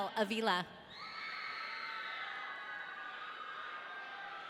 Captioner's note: audience cheering